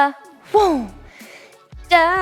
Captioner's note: swoosh sound effect